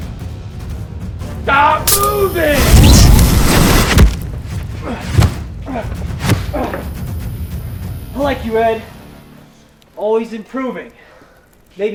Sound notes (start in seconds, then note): 4.8 groaning